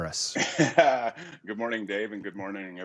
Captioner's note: laughs